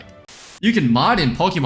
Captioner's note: static